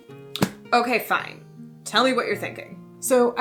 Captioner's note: snaps book shut